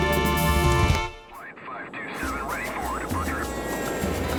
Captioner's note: voiceover